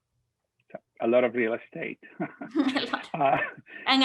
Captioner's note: chuckling